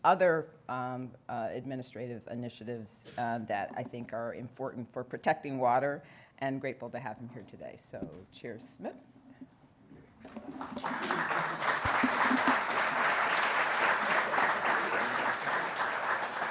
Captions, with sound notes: other administrative initiatives that I think are important for protecting water. And grateful to have him here today. So, Chair Smith. (Applause)